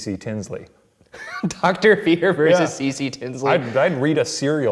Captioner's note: laughs